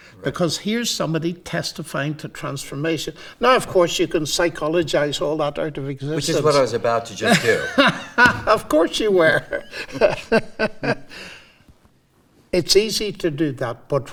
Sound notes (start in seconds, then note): 9.3 both laughing